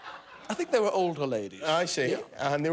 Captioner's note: laughter